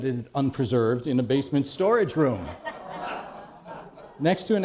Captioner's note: laughter